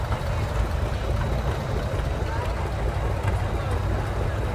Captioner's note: revving continues